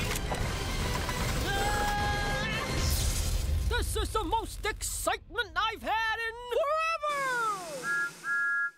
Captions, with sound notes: [THOMAS SCREAMS] "This is the most excitement I've had in...forever!" [THOMAS WHISTLES]